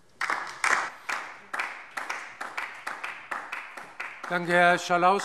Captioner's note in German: Beifall DIE LINKE